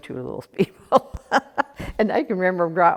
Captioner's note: laughs